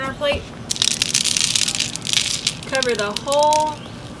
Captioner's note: seeds dropping